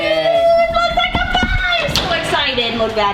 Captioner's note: both cheering